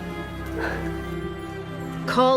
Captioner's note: annaline exhaling